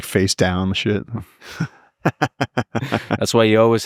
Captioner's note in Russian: смеётся